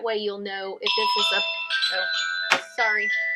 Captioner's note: phone ringing